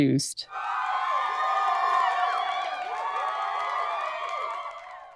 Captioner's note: crowd cheering